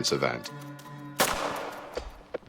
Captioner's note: gunshot